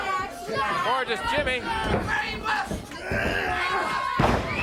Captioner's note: grunting; crowd cheering; body thudding